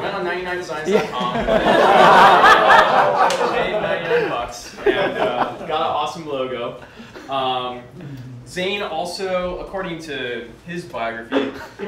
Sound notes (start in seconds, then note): 0.8 crowd laughs